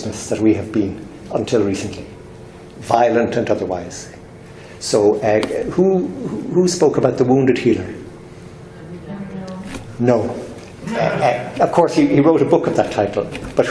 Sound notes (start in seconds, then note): 8.7 murmuring